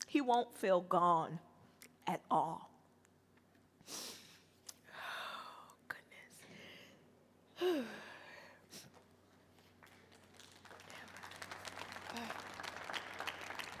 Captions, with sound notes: He won't feel gone at all. (sniffles) Oh goodness. (sighs) (audience applauds)